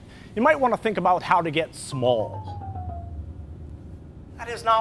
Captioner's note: shrinking sound effect